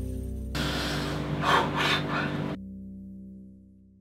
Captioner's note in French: congél et respiration forte